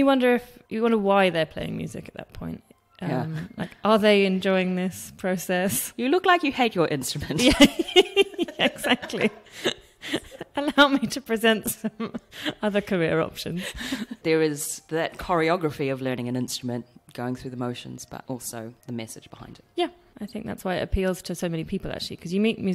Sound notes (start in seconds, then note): 7.4 laughs